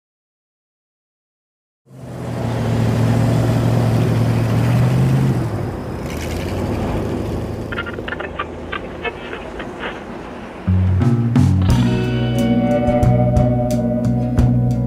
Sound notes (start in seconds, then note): 2.8 car engine revving; 10.7 gentle music